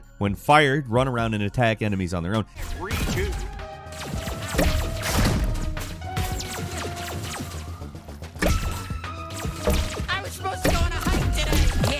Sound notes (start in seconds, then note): 3.7 electronic pulsing; 4.1 tense electronic music